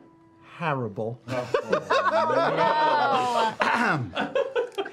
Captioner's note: laughter